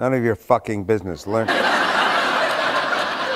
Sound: laughter

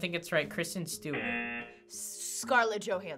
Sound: buzzer rings

